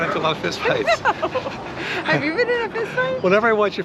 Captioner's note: laughing